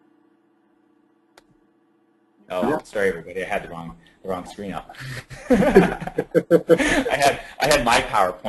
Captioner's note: laughing